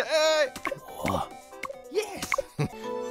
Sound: chuckling

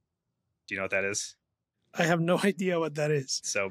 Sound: laughs

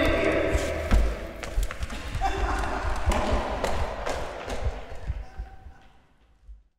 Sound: rapid footsteps; laughing

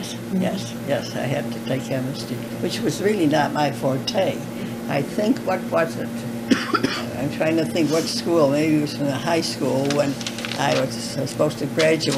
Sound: laughter

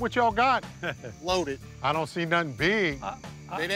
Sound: laughs

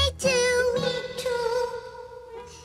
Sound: echoes

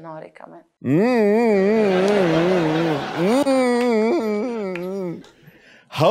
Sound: extensive hmmmming

